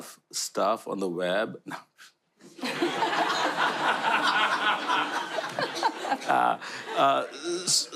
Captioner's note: laughter